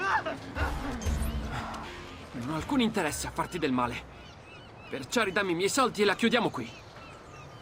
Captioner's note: catching his breath